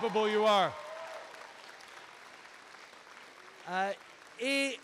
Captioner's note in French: Acclamations et applaudissements